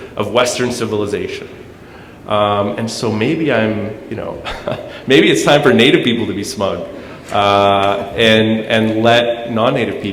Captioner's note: chuckle